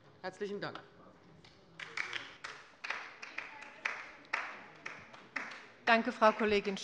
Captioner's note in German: Beifall bei der LINKEN